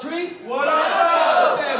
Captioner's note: crowd